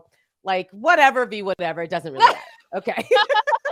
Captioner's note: laughs